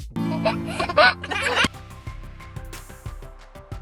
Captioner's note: baby laughing; upbeat music